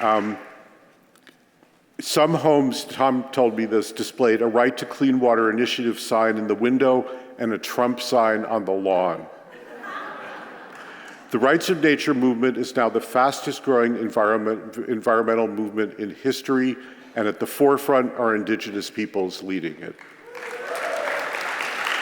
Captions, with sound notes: Some homes, Thom told me this, displayed a right- to-clean-water initiative sign in the window and a Trump sign on the lawn. [LAUGHTER] The Rights of Nature movement is now the fastest growing environmental movement in history, and at the forefront are Indigenous Peoples leading it. [APPLAUSE]